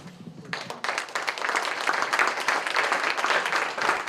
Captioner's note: applause